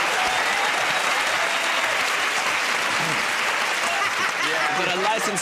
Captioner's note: laughter